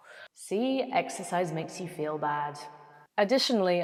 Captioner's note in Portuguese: voz com eco